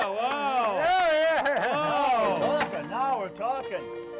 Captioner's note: cheering; piano music